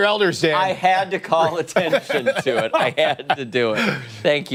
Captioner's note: laughter